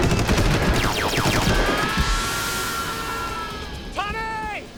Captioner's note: gunshot; male scream